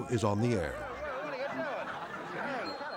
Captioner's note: audience laughing